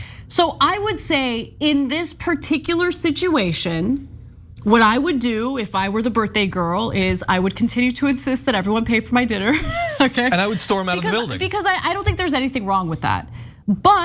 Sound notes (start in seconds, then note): 9.5 laugh